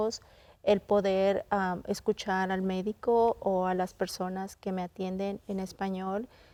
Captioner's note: continues speaking in Spanish